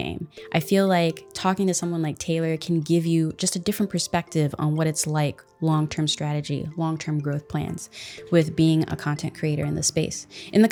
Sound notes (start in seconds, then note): none